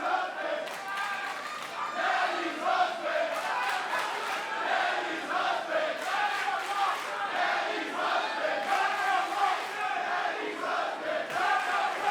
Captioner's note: fans chanting